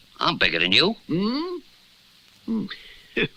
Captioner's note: Simon Gasps